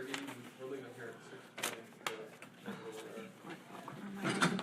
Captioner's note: speaking faintly